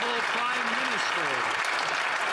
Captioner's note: some Applause